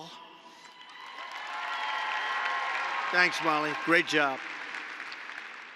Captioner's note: applause